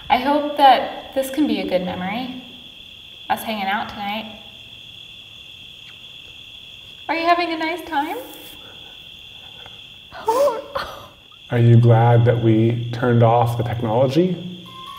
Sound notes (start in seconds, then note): 4.8 crickets chirping; 10.2 gasps; 14.6 music box chiming